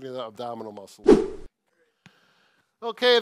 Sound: whooshing effect sounds

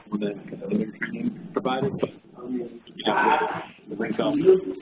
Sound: loud static; general hubbub of voices

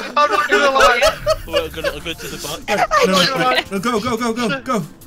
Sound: everyone laughing

